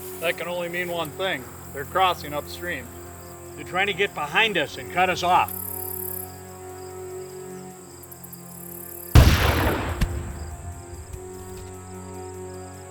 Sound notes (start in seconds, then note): 9.1 gunshot booming